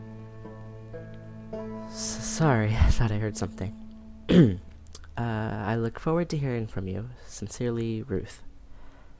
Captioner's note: clears throat